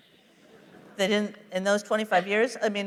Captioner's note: laughter